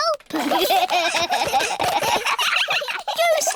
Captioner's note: all giggling